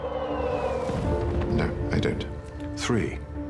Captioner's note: bomb exploding